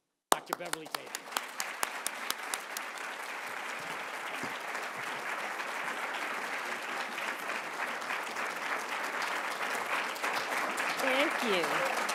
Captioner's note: applause